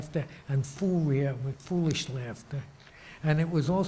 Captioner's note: speaking in foreign language